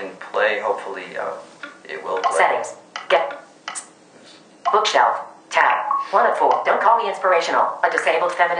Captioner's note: phone Speaking on Screen settings, then begins to speak book text